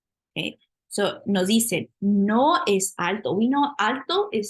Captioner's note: spanish